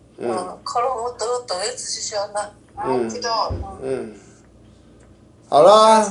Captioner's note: participant microphone interference